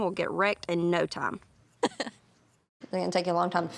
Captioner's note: laughs